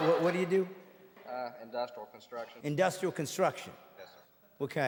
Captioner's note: audience laughing